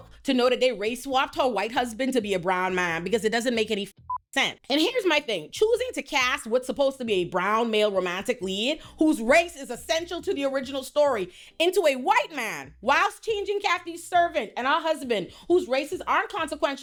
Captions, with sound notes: to know that they race swapped her white husband to be a brown man because it doesn't make any (beep) sense. And here's my thing, choosing to cast what's supposed to be a brown male romantic lead whose race is essential to the original story into a white man whilst changing Kathy's servant and our husband whose races aren't consequential